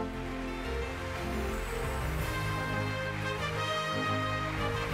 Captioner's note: audience applauding